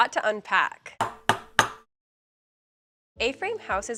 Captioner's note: hammer banging